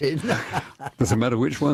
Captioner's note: laughter